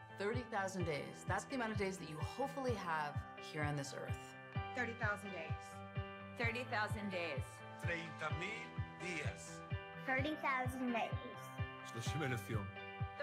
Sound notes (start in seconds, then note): 9.8 foreign Language; 12.1 foreign Language